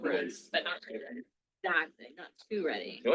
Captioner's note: people chattering